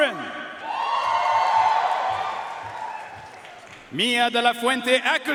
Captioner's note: audience cheering and applauding